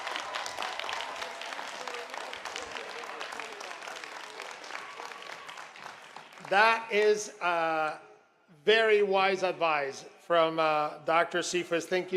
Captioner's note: applause